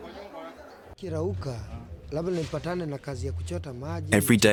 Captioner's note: speaking in non-English